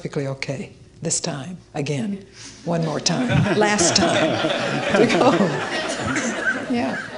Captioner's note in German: Leute lachen